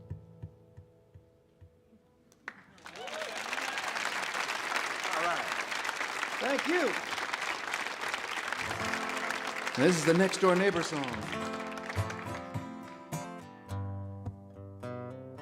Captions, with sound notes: (audience applauds) Alright, thank you. This is the next door neighbor song. (happy guitar music)